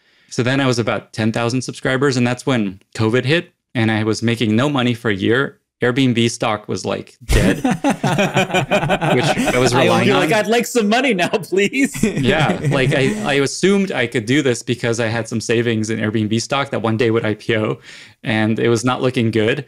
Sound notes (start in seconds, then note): 7.3 all laugh; 11.2 laughs